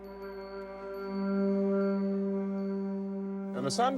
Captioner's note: bell rings